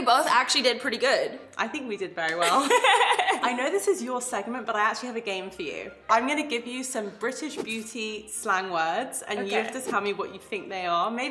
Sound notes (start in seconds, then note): 2.4 laughter